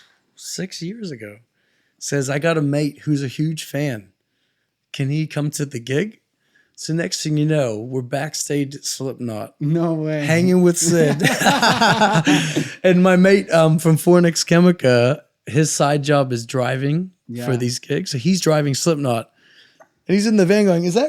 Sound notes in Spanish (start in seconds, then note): 10.8 reír